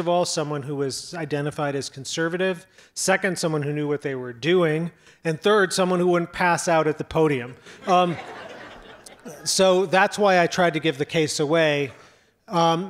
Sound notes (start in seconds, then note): 7.4 audience laughs